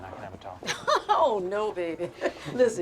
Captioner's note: Betty laughs